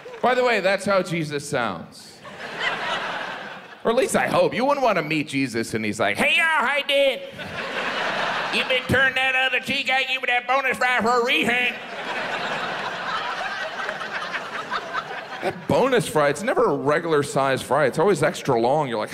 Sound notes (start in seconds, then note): 2.2 audience laughs; 7.2 audience laughs; 11.4 audience laughs